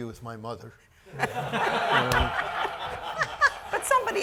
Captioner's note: audience laughing